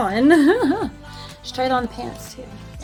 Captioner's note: laughs